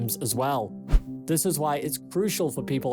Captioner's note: screen swishes